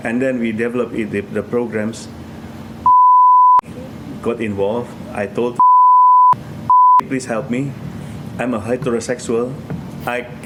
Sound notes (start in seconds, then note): 3.1 beep